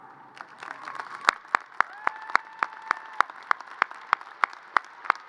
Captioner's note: audience cheers and applause